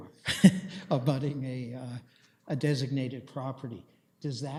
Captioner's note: chuckles